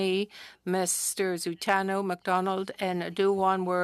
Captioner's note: speaking French